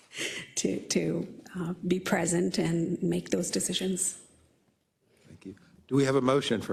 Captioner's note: laugh